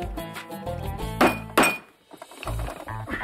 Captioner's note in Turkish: Vurma sesi